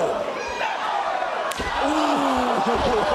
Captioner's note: chuckles